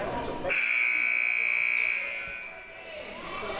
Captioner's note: buzzer